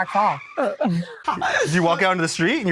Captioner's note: laughs